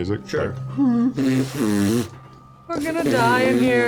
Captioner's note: raspberry sound